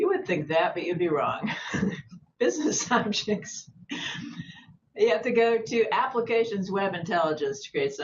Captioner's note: laughter